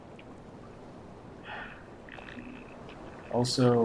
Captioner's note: sighs